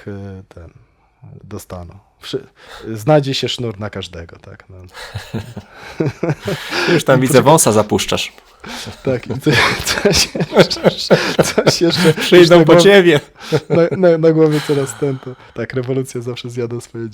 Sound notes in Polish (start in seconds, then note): 12.8 śmiech